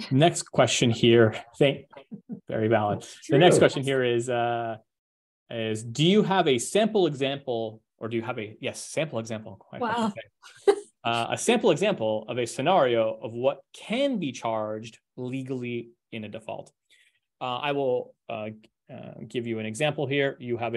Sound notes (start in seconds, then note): 1.9 chuckles; 10.8 chuckles